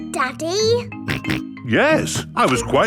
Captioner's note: snorts